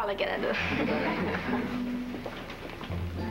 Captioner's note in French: Rires